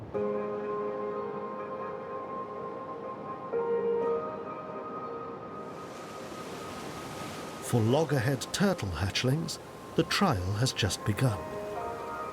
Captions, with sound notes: (gentle music) (waves crashing) For loggerhead turtle hatchlings, the trial has just begun.